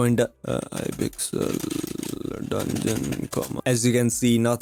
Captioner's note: 1980’s typewriter noises